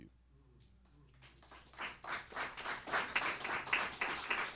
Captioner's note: applause